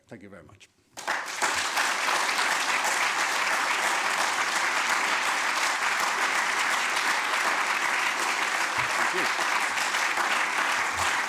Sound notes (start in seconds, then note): 1.7 applause